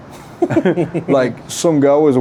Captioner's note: giggling